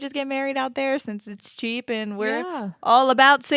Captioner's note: laughs